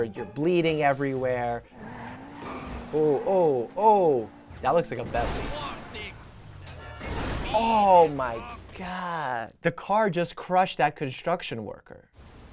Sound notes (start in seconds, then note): 1.8 tires screeching; 6.9 car crashing